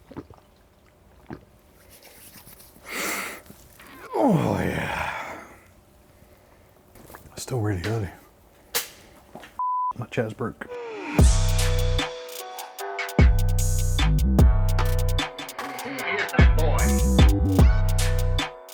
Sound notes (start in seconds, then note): 0.0 gulping drink; 1.8 hands rubbing; 4.0 inhales heavily; 5.8 gulping drink; 11.1 upbeat music